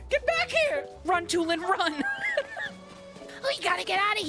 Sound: laughter

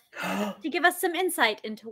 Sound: gasps

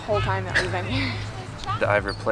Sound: laughs

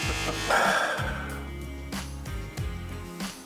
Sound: laughs; sighs

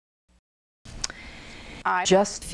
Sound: woman takes a breath

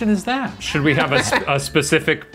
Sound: laughs

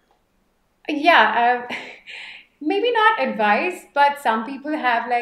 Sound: light chuckle

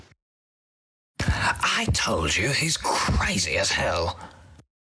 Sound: whispering

